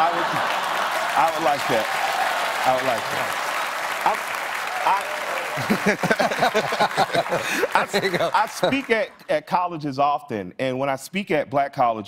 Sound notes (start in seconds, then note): 0.0 cheers and applause